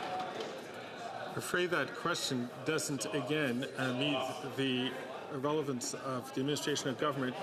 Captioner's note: some Applause